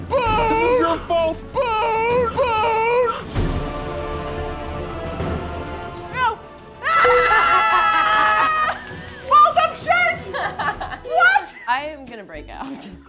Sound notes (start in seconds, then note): 3.7 dramatic music; 7.1 laughing; 7.5 shouting